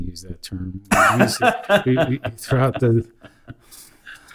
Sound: laughs

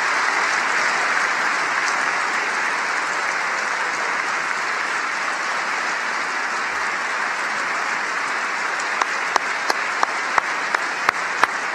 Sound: applause

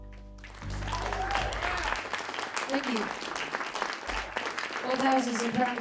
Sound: applause

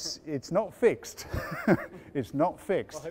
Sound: both laughs

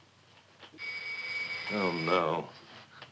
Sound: doorbell ringing

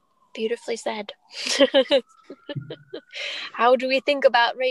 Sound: laughs

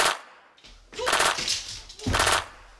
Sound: machine gun; machine gun

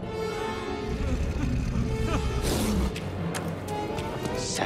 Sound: Nightbrother whimpers, beast snarls then attacks

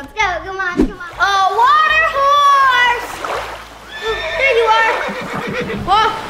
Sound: horse neighing

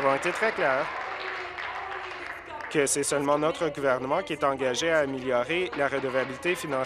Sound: applause

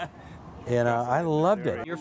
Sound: man laughs

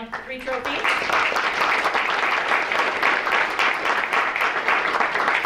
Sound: audience clapping

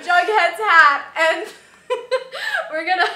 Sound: laughter

